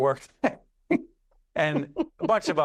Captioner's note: laughter